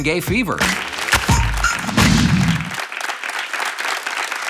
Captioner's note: audience applauds